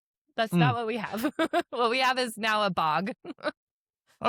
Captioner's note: laughs